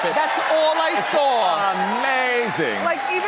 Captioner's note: audience cheers